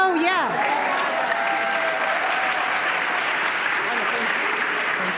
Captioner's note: applause